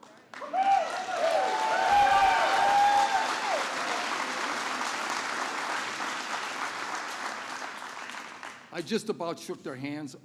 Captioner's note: applause